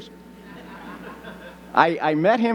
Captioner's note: audience laughing